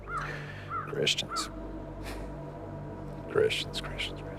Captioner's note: scoffs